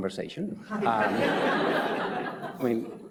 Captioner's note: audience laughs